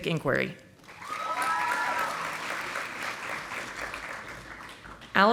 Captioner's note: audience applauding